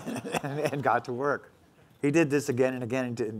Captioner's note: laughing